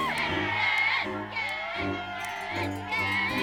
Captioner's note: television